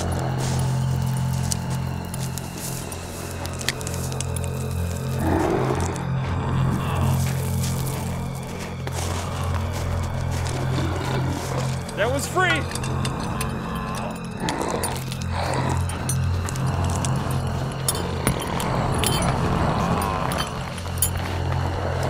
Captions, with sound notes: (footsteps shuffling) (gravel crackling) (zombie growls) - That one's free. (metal clanking) (zombies growling)